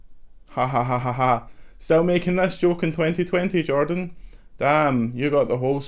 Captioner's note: sarcastic laugh